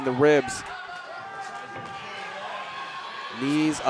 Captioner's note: audience cheering